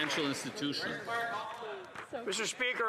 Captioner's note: applause